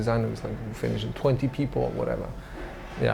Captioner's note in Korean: none